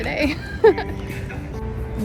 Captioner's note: giggles